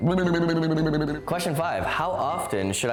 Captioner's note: mumbling